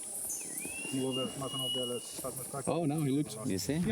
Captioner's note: guide whistles